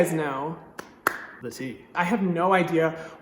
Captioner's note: clapping